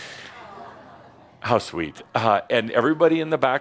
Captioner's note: a few people say “Awww”